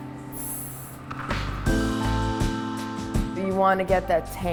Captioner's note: hissing